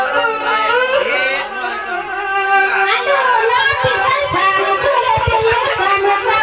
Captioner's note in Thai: ปรบมือ